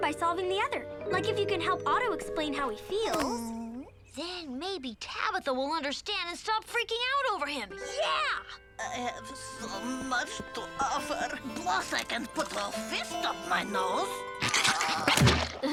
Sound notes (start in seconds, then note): 10.0 sad music; 14.4 nose squelching; 14.4 Lizbeth shuddering; 14.5 Otto groaning